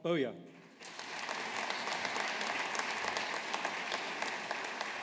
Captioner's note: audience applauding